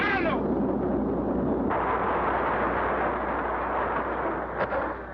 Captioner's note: machine whirring; machine groans